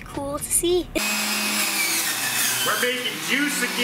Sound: loud blending

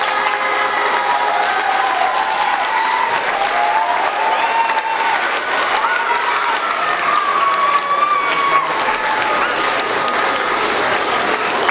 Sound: clapping

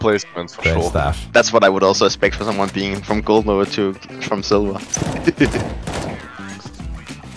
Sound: giggles

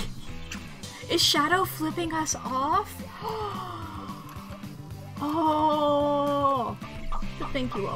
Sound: through laughter; gasps

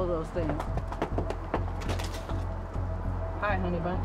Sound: knocking on door

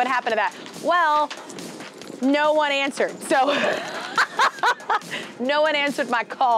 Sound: laughter

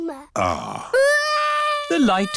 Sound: crying

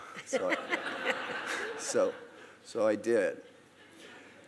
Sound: host and audience laughing

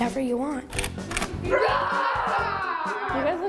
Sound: screaming

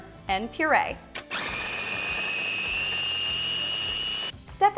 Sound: blender buzzing loudly

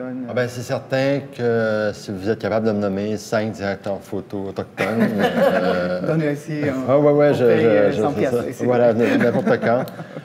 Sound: laughs

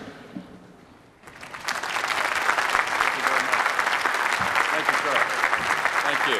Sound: applause

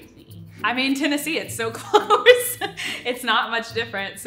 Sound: laughs

